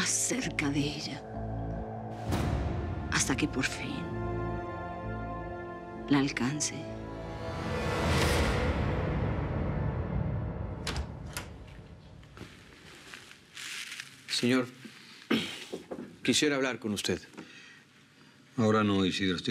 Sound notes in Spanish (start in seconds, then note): 10.6 sonido al abrir la puerta